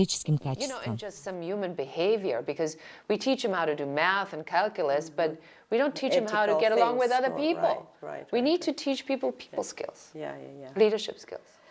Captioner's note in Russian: Разговаривают на английском